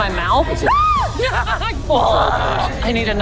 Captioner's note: gags